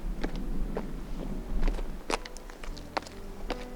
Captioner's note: footsteps